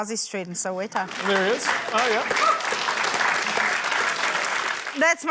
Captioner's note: applause